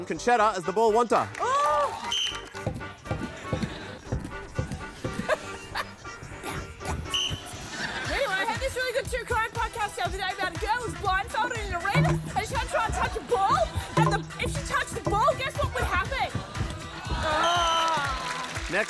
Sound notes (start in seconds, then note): 2.0 blows whistle; 6.8 blows whistle; 17.0 blows whistle